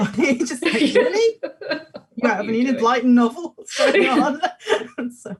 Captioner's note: laughing; both laugh